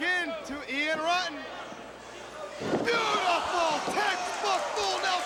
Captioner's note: crowd chatter